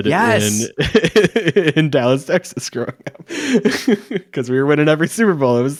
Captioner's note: laughs